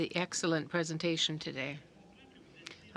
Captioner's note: speaking in French